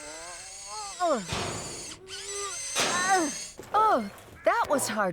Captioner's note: grunting